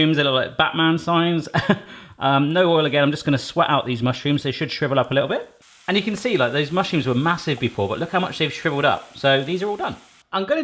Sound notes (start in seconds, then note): 1.4 chuckles; 6.2 sizzling